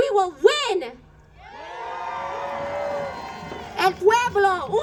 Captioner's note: crowd cheers